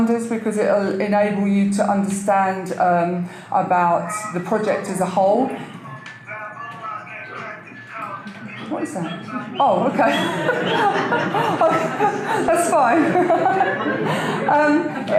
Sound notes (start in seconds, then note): 5.5 cellphone ringtone; 8.3 audience laughter